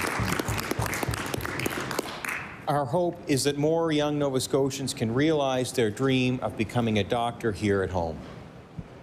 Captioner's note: applause